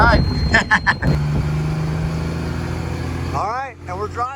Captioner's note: laughter